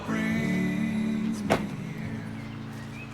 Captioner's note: truck door clicks shut